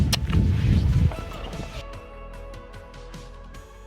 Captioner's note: short kiss on the cheek; bright music